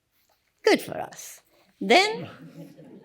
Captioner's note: laughter